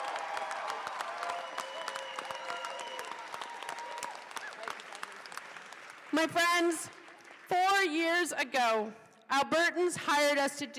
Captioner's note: cheers and applause